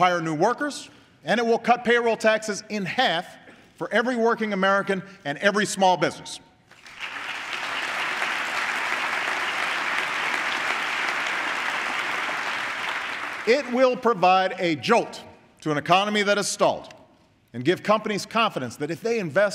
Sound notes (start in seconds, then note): 10.3 applause